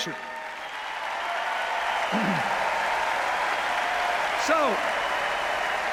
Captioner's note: cheers, applause